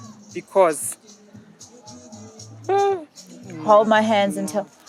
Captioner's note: gasping